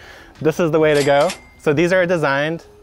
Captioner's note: cash register rings